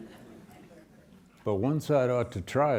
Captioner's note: students chuckle